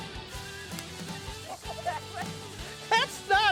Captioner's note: laughing